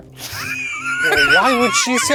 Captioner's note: laughing